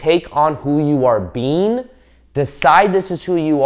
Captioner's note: snapping fingers